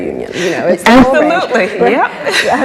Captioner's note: laughs